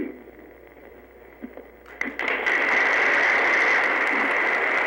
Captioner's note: applause